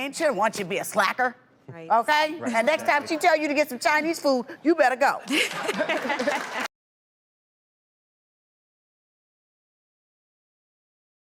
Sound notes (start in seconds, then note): 5.2 laughter; 5.3 crowd applause